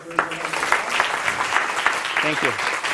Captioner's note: applause